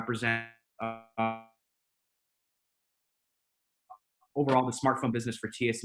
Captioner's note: audio drops out